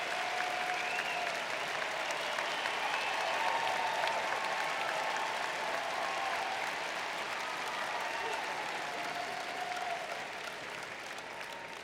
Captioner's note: continued applause